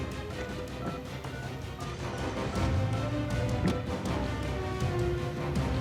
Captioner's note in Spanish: sonido al marcar